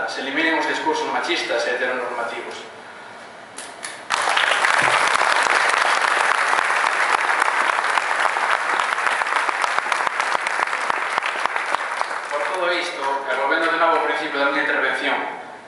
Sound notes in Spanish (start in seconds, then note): 4.0 Aplausos